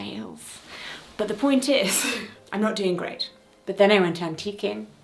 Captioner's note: chuckling